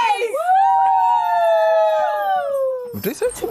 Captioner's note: all cheering